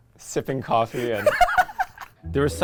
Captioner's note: laughing